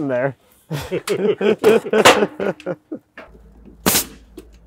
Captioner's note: both laughing